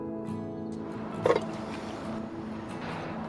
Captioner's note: coffee cup clinking